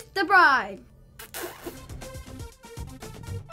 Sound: kissing sounds

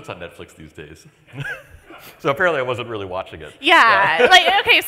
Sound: laughs

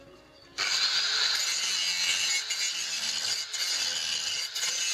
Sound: grinder motor whirring

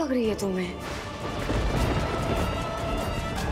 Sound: thundering

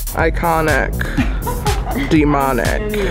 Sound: laughs

